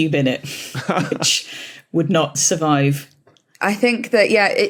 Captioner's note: chuckles